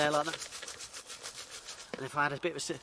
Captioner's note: shaking sound